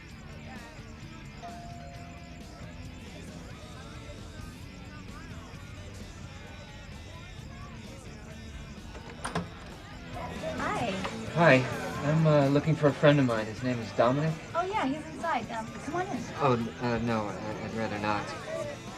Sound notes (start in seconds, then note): 0.1 party-goers chattering; 1.4 doorbell rings; 8.8 door opens